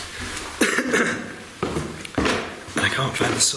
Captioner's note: coughing